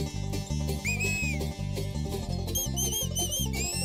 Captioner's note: upbeat acoustic music; whistling